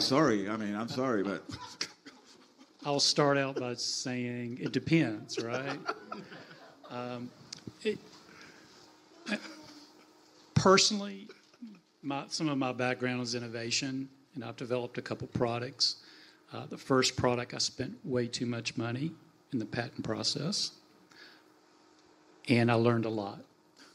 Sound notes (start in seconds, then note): 5.9 audience and panelists laugh